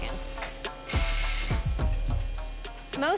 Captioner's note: machine whirring